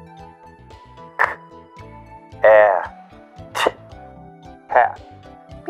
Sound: says word phonetically

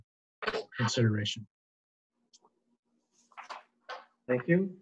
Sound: paper shuffling

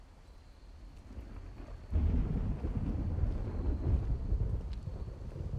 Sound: thunder rumbling

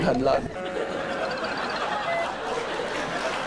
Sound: laughing + clapping

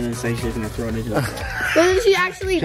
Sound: laughs

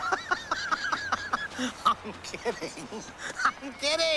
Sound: laughs

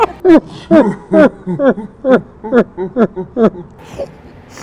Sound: laughter; laughter in slow motion

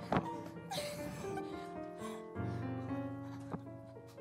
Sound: Gretel Giggling

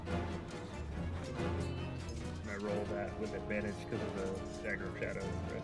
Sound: humming

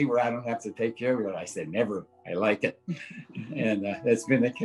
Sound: chuckling

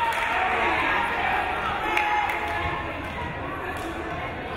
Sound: crowd cheering

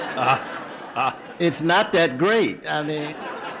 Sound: audience laughter

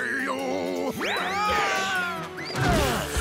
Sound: screaming

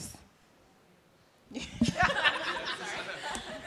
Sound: laughter

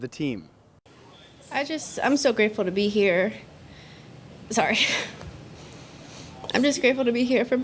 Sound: pauses and holds back tears

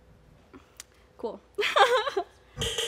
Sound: laughs

